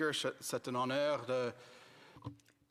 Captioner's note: speaking French